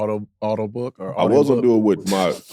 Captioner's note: laughing